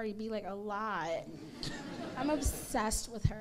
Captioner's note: crowd laughs